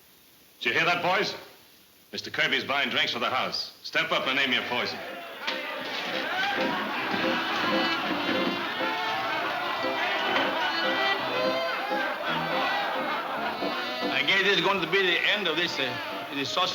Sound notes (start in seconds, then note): 4.8 crowd chattering; 4.8 lively fiddle music